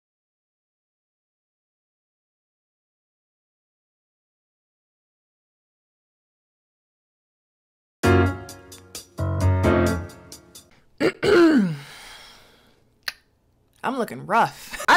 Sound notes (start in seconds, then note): 8.0 lively music; 11.0 clears throat